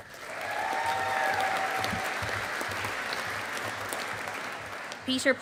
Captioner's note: audience applauding